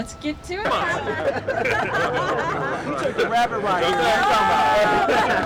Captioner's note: laughter, indistinct chatter